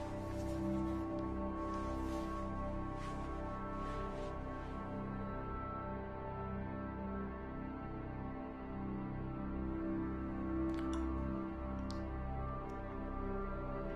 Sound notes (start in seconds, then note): none